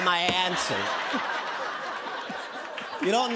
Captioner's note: laughter